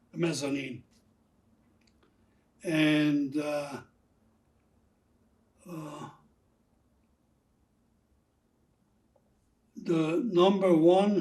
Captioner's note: pauses 6 seconds